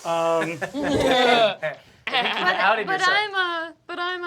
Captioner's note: laughter